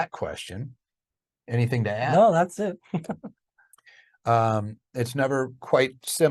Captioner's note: chuckles